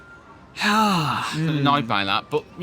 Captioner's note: sighs